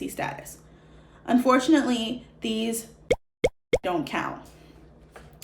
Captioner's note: pop sound: shows theme park annual pass